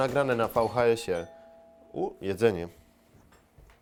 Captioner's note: doorbell